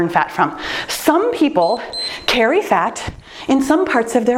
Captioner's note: timer beeps